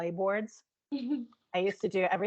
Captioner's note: chuckling